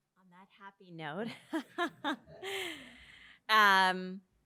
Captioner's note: laughs